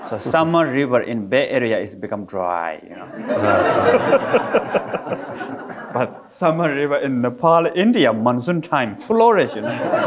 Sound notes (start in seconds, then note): 3.0 all laughing